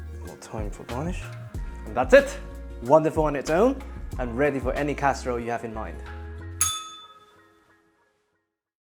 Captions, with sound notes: More thyme for garnish. And that's it. Wonderful on its own and ready for any casserole you have in mind. [bell rings]